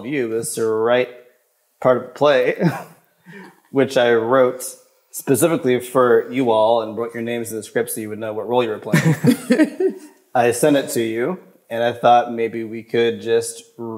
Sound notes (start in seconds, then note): 8.9 everyone chuckles